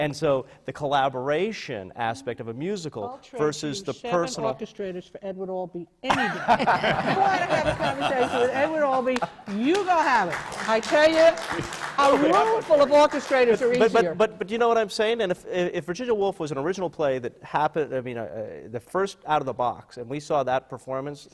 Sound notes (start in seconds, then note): 6.0 laughter